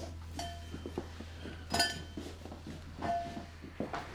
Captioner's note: footsteps, doorbell clangs; thuds against shoulder